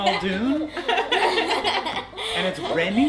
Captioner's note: laughing